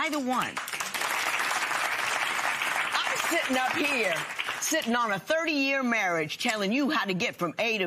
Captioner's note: applause